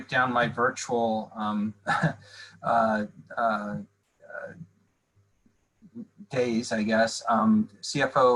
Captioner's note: laughter